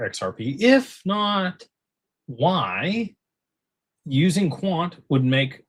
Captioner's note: none